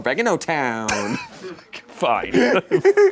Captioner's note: laughs